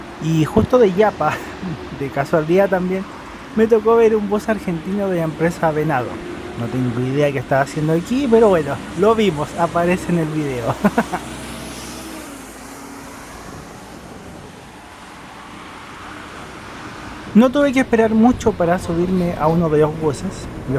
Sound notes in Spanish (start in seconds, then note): 10.6 risas